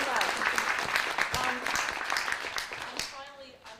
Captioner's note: applause